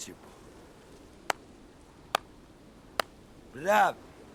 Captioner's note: claps slowly